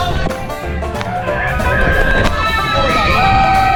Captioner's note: screaming